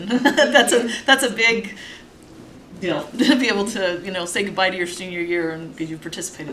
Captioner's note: laughter